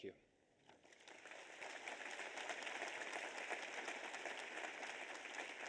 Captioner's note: audience applauds